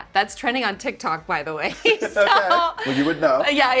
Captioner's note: laughing